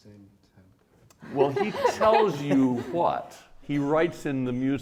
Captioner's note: laughing